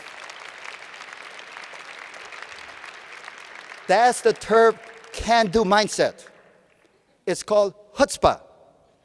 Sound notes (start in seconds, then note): 1.7 applause